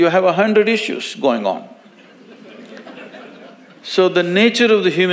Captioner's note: audience laughs